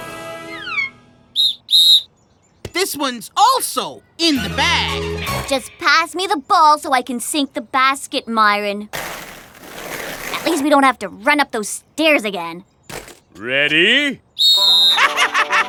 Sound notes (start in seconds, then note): 1.3 blows whistle; 14.4 blows whistle; 15.0 laughs